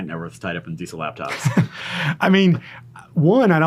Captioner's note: laughing